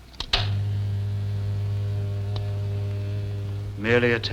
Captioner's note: buzzing